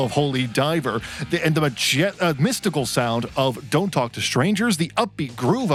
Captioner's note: sputters